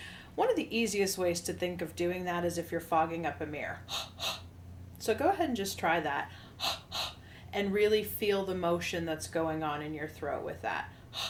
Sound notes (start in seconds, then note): 3.9 exhales forcefully; 6.4 exhales forcefully